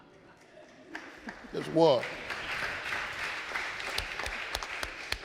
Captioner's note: audience laughing; audience applauding